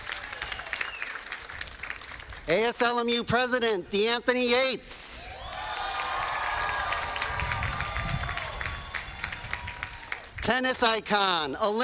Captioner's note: cheers and applause